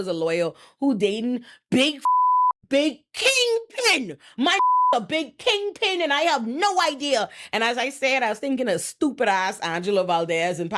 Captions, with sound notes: a lawyer who dating big (beep) big kingpin, my (beep) a big kingpin and I have no idea. And as I said, I was thinking of stupid ass Angela Valdez